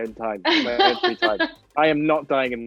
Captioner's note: Amita laughs